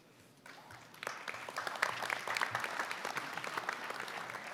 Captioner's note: applause